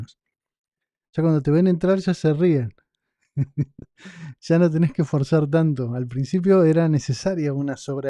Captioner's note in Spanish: risas